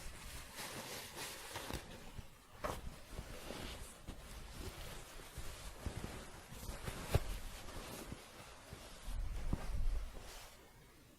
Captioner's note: shuffling and scratching